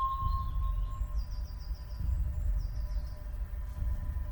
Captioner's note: birds chirping